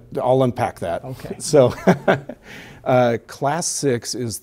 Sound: laughs

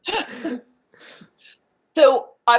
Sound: laughing

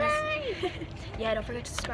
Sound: laughs

